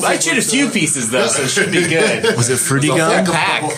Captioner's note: laughs